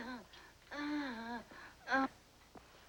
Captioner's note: moaning Continues